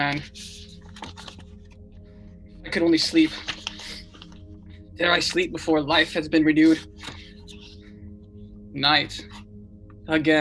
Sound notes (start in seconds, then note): 0.2 turning pages